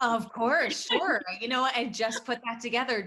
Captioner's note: laughs